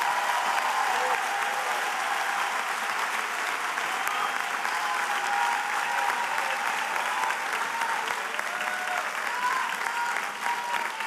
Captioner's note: cheers and applause